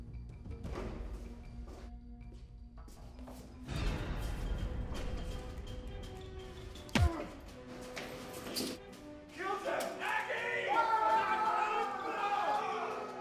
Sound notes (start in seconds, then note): 6.9 fist thuds; 10.8 shouts